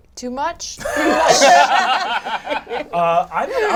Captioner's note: all laugh